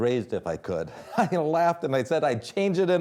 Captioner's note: laughs